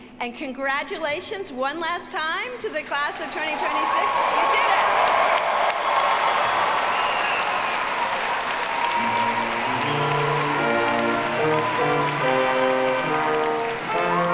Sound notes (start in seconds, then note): 5.6 audience cheers and applauds; 10.6 bright ceremonious music